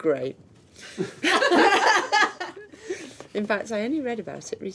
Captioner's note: laughing